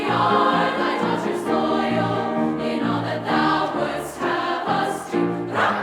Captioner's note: rah! Rah! Rah!